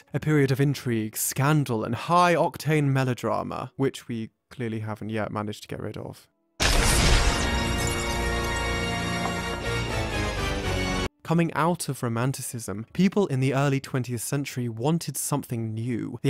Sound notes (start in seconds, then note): 6.6 glasses breaking; 6.7 dramatic music